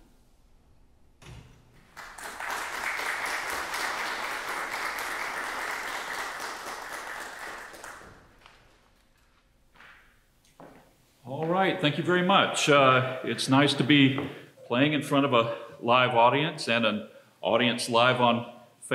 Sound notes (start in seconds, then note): 1.8 applause